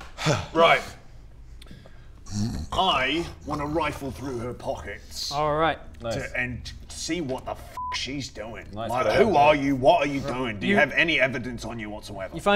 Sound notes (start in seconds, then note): 2.2 snoring